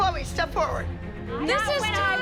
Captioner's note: arguing